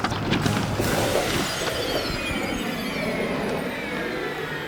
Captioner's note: whimsical music; metal clanks; piano whooshes